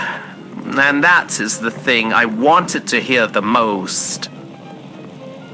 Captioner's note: sigh of relief